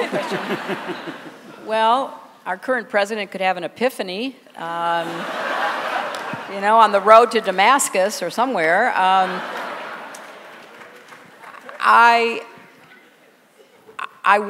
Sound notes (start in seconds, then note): 0.0 laughter; 5.0 laughter; 9.0 laughter